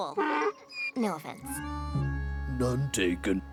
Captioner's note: mule brays